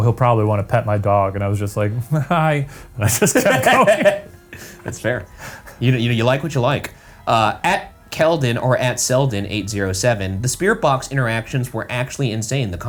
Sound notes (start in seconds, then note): 3.0 laughs